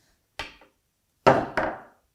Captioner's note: mallet on chisel tapping; mallet on desk clunking